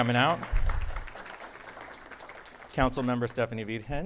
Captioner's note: audience applauding